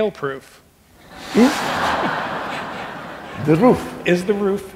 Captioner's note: laughing